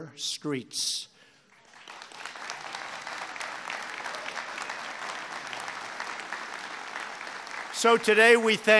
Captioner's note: applause